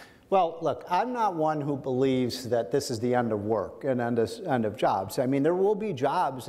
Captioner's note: none